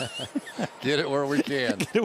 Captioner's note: laughter